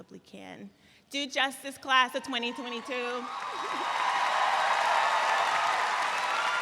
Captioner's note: audience cheering